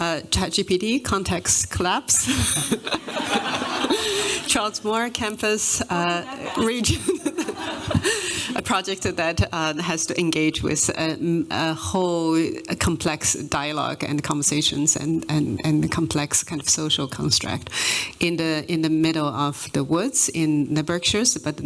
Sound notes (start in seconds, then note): 2.2 laughter